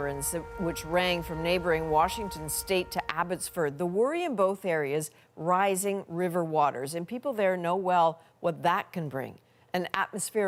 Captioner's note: sirens